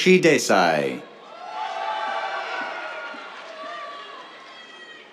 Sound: cheers, applause

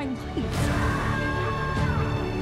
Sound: screams

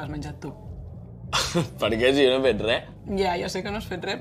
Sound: laughs

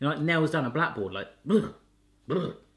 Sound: shudders

